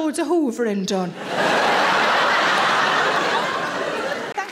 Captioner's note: audience laughing